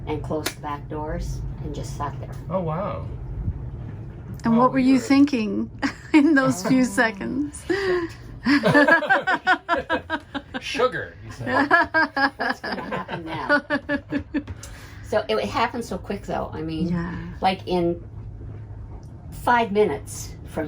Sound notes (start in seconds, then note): 5.8 chuckles; 8.4 laughing